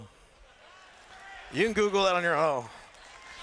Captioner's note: laughter